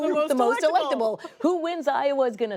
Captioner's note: laughter